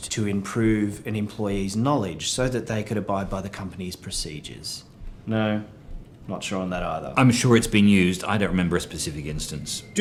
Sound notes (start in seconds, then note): none